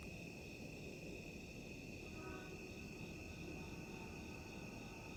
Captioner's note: crickets chirping